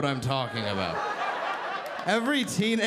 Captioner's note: audience laughing